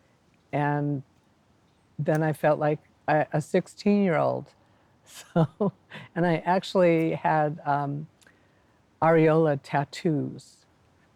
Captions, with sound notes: And then, I felt like a 16-year-old! So-! (chuckles) And, I actually had areola tattoos